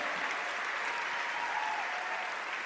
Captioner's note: applause